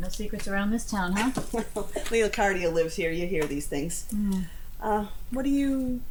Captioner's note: laughs